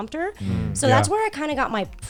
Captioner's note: guys humming in agreement